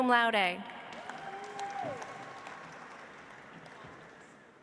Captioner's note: audience applauds